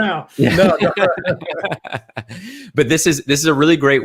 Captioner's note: all laugh